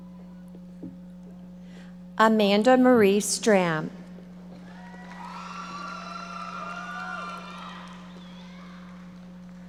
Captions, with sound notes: Amanda Marie Strahm. (audience members cheering and applauding)